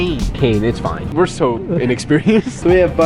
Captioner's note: chuckles